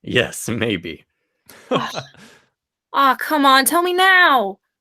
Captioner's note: chuckles